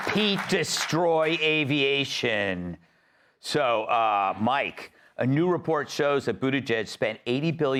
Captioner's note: cheering and applause